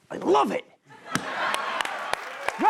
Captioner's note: laughter and applause